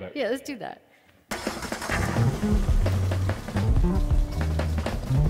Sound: car engine revs

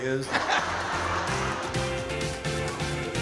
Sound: audience laughing; upbeat energetic music

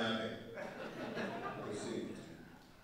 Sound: audience laughing

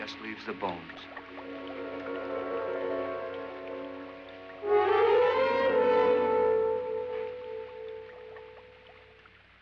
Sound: bubbling & fizzing; suspenseful music

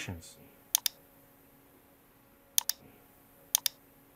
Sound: mouse clicking

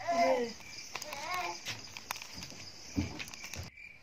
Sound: kid murmuring

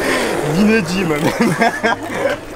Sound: laugh

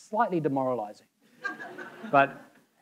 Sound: audience laughing

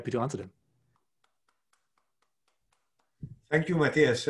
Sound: clapping

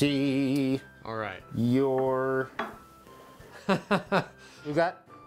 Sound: laughs

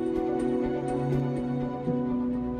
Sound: speaking Spanish

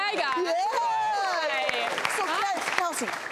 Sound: audience applauds

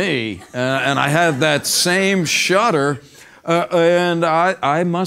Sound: laugh

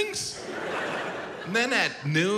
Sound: audience laughs

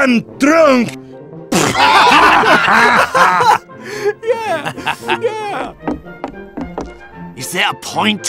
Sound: laughter

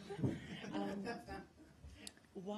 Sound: laughter

